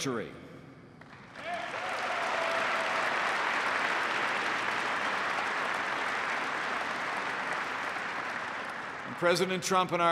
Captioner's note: applause